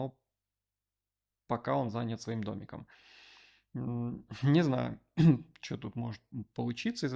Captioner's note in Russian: откашливается